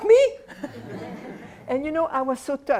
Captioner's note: laughter